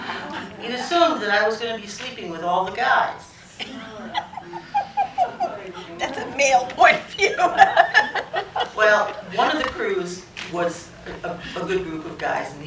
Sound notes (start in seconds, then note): 0.0 laughter; 3.7 groaning and laughter; 5.6 laughing